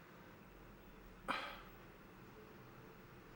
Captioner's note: sighs